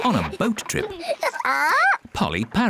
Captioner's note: polly squawks